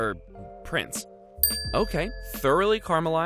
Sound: dings

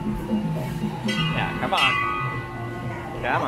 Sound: continues to ring the bell

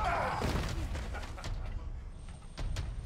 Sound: laughing

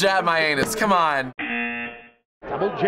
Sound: buzzer

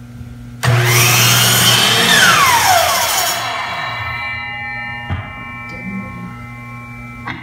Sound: loud sound of the saw, followed by the sound of the blade ringing

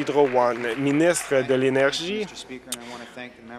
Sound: applause

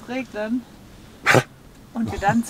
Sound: Caesar is coughing

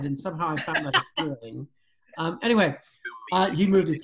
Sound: laughs

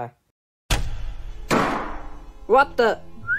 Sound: lights Shut Off; door Opens

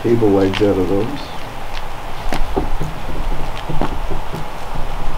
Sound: fire crackling

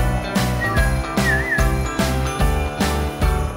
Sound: whistles

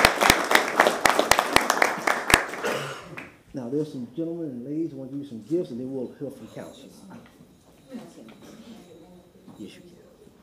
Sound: applause

